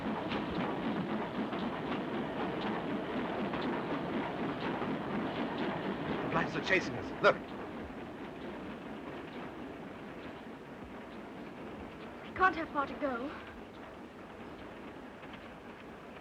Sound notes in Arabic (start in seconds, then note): 0.1 صوت محرك القطار; 8.6 قطار يهدر بهدوء; 13.6 قطار يهدر بهدوء